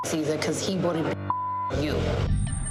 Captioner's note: beeps